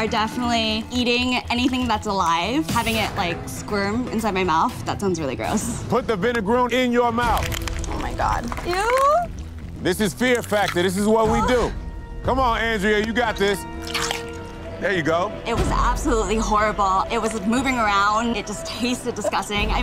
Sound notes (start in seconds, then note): 13.8 bug crunching